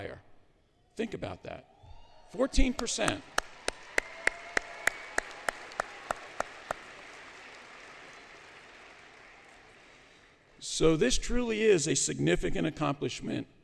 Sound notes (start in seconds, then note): 1.8 cheering; 2.6 applause